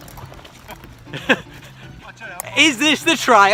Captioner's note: laughs